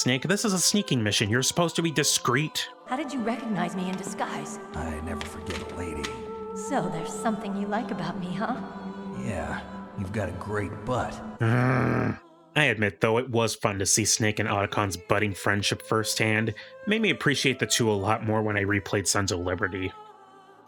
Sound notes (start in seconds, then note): 11.4 groan